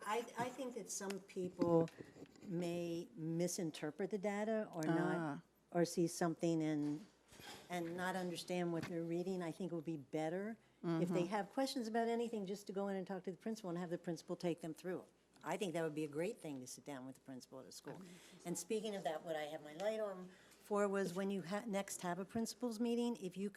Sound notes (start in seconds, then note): none